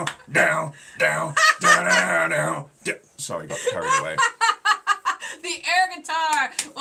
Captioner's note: laughing